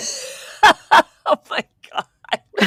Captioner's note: laughs